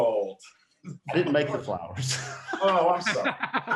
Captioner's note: laughing